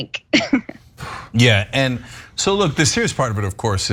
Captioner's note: laugh